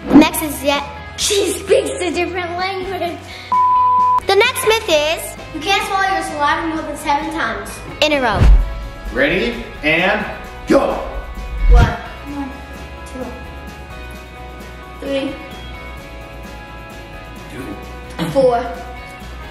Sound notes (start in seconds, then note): 3.5 beep